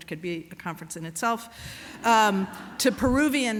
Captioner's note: laughter